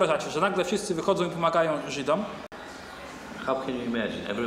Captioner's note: speaking Polish